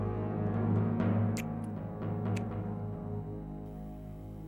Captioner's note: kissing Sounds